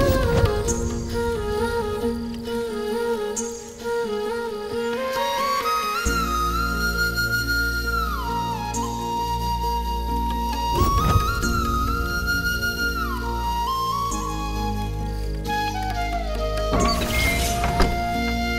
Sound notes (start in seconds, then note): 16.6 door opens